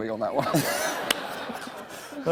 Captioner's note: laughter